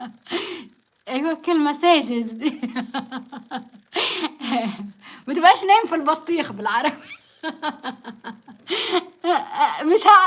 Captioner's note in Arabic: ضحك; ضحك